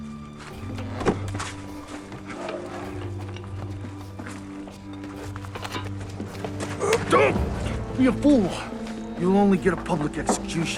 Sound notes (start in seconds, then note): 0.3 suspenseful music playing; 6.6 man grunts